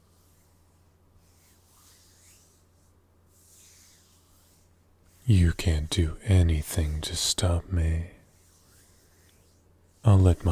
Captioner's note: hand noises